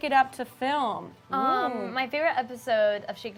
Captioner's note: impressed sound